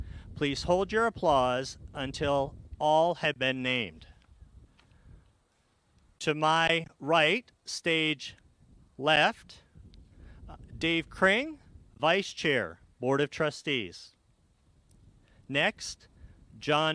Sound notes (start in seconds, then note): none